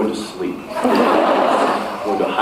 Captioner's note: laughs